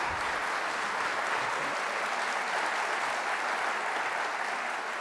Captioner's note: audience applauding